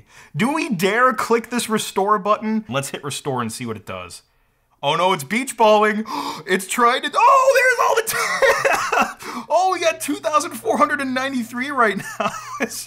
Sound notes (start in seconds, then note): 6.0 gasps